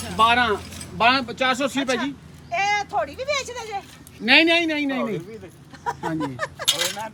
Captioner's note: laughing